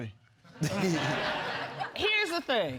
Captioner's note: laughter